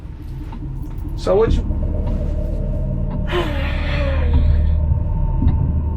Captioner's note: girlfriend exhales